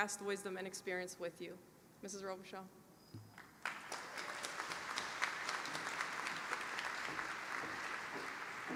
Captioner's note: applause